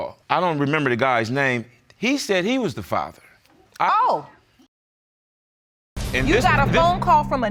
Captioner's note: none